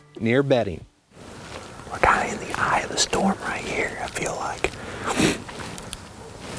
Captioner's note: whispering